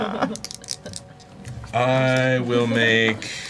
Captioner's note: all laugh